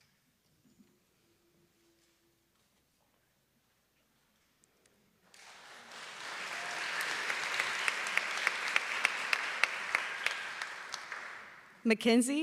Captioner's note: applause